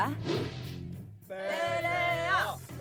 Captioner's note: chanting